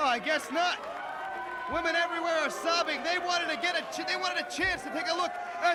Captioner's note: crowd chatter